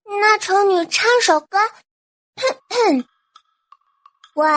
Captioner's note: coughs